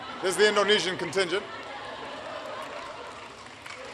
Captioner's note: applause